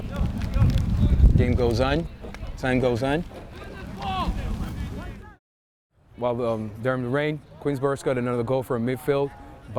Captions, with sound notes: - Game goes on, time goes on. (players shouting) Well, during the rain, Queensborough scored another goal from midfield